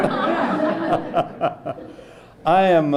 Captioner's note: laughter